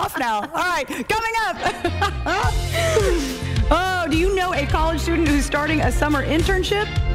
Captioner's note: laughter